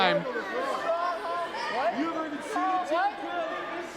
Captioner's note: crowd chattering